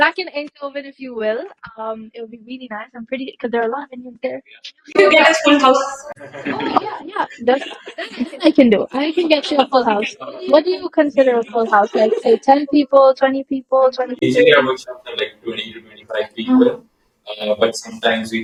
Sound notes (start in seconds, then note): 5.6 laughter